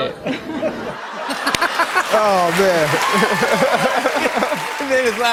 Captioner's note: laughter and applause